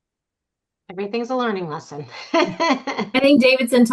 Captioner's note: laughs